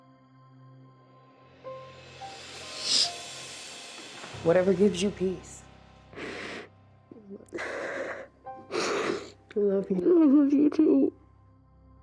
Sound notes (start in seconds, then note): 1.4 solemn music playing; 2.7 sniffles; 5.6 sobbing; 8.6 sniffles